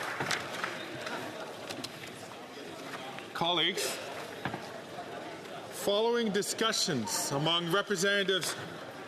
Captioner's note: applause